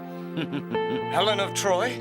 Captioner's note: Zeus chuckles